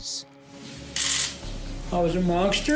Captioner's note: camera shutters clicking